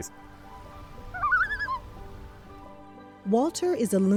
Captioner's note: loon calling